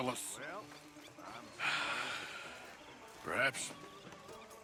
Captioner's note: sighs